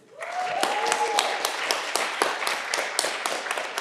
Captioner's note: audience clapping